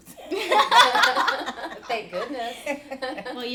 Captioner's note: laughing